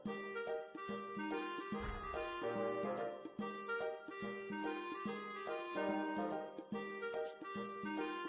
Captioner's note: shriek